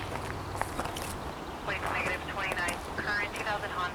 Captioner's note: police radio chatters